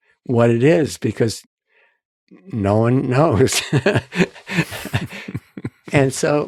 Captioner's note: both laughing